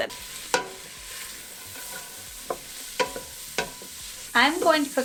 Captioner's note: food sizzling; light clanking